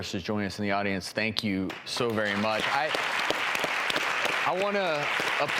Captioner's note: audience applause